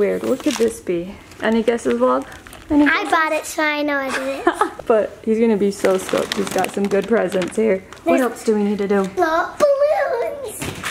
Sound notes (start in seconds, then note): 4.3 laughs; 10.5 balloons clatter dully